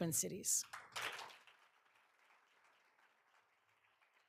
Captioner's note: all applauding